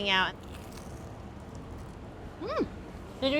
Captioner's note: pastry crunching